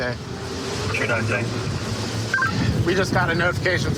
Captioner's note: radio communication